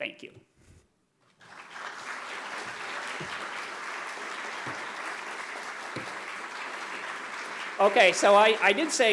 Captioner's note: applause